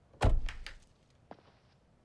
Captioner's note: car door slams; footsteps approach